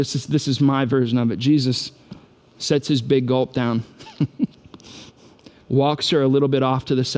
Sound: chuckles

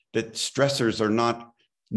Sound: none

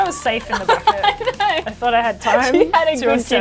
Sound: laughs

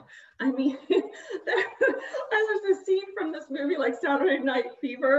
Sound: laughs

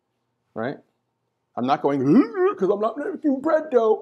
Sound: funny noise

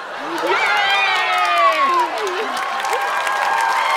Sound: cheering; audience applause

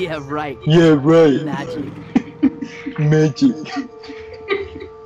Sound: laughs

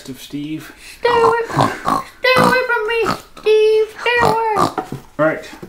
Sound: snort

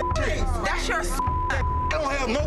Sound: beep

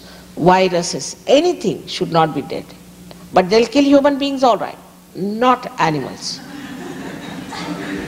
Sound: laughter

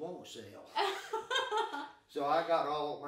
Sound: laughing

